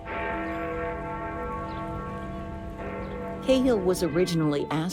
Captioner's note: ringing Bell